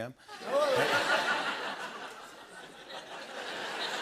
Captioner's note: laughter